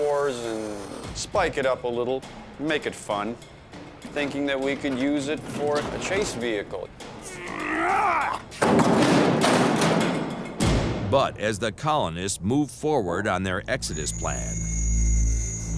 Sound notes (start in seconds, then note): 7.2 grunts